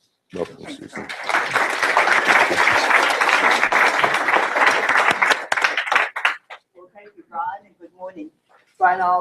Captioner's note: applause